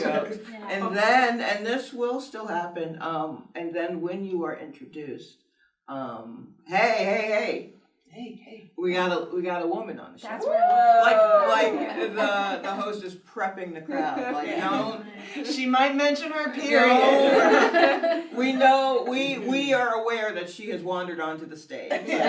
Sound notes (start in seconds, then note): 10.3 cheering